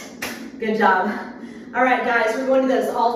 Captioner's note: hands clapping